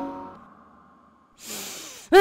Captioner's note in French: respiration